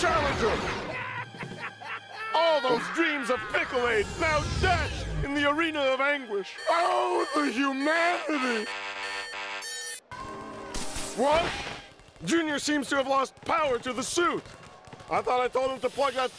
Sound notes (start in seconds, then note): 0.1 cackling; 6.5 alarm beeping